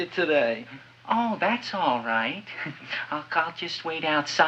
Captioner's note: chuckles